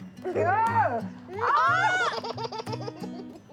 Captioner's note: laughs